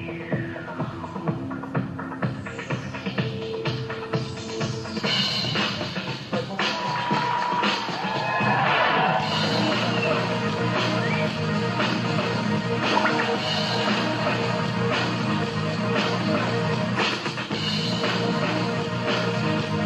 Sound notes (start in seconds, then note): 6.5 cheers and applause